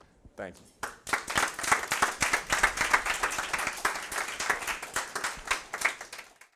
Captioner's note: applause